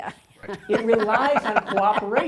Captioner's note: laugh